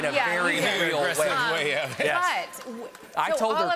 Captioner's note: laughter